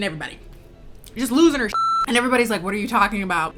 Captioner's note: beep